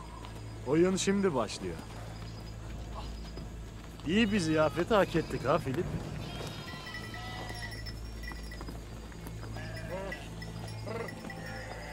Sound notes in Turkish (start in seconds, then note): 9.4 Keçi sesleri